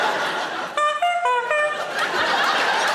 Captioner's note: audience laughing; Sarah honking; audience laughing